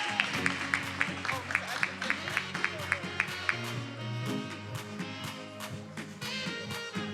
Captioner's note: attendees applauding and cheering; faculty member speaking faintly; upbeat music